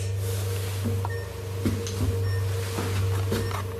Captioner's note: clicking